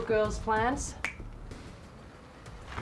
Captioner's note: snaps fingers